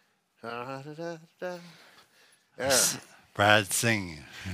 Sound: humming

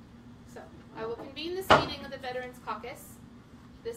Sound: gavel

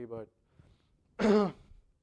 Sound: cough

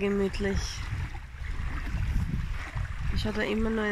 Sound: wave noise

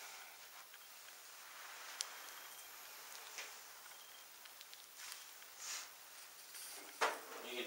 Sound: slight beeping

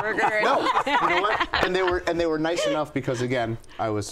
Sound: laughs

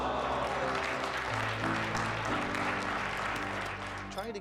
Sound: applause

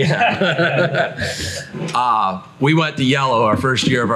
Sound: everyone laughs

